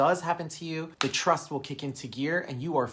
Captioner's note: fingers snapping